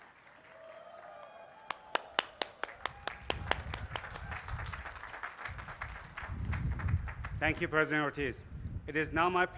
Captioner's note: applause